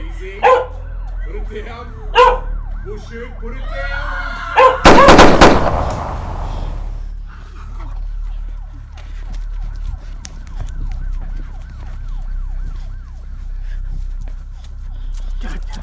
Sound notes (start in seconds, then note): 3.6 Cass screaming; 4.8 guns firing; 7.4 sirens blaring; 14.4 panting